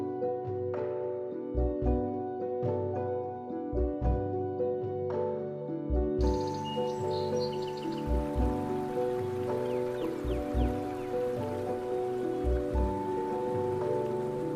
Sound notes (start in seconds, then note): 6.2 birds singing; 6.3 water running